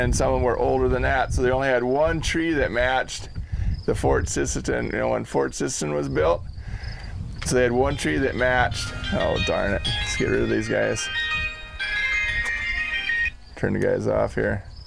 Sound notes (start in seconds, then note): 7.7 phone ring